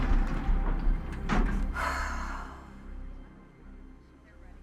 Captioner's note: sighs